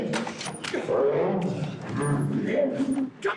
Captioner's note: jackson growling